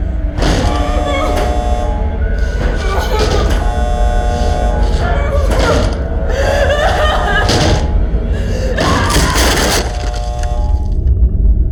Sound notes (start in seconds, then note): 6.2 person crying and screaming